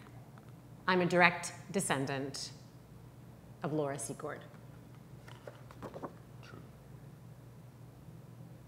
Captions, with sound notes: - I'm a direct descendant of Laura Secord. (paper rustling) - True.